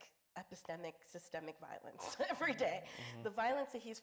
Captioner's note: chuckles